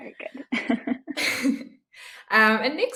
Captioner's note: both laughing